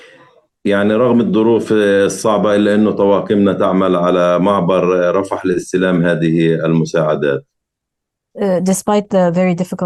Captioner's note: speaking arabic